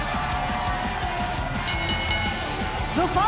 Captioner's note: crowd cheering; bell ringing